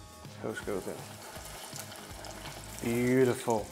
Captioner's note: sizzling sound